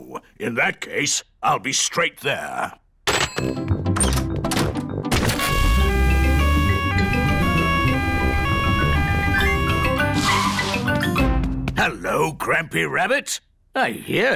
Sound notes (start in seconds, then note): 5.4 siren wailing